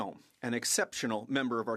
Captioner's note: speaking French